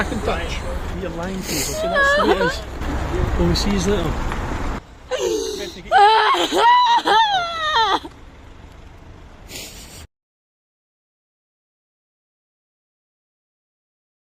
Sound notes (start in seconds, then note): 2.3 baby crying